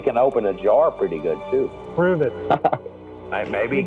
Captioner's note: laughs